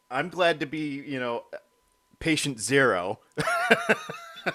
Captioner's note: both laughing